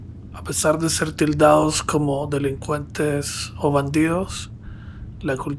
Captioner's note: narrator speaks Spanish